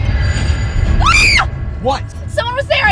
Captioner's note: eerie music; Shelby screams